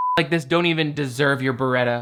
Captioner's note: beep